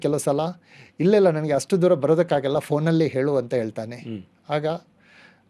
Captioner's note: clears throat